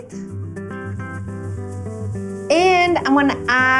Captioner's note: sizzling